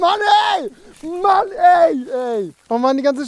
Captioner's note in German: Lachen; brüllt